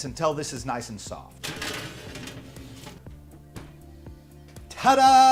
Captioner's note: scrapping